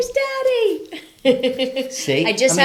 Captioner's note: laughing